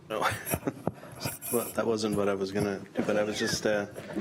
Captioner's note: laughs